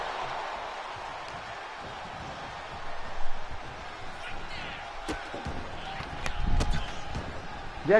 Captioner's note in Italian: Applauso